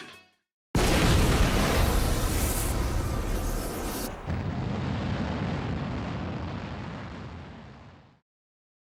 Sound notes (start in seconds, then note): 4.8 mushroom cloud from explosion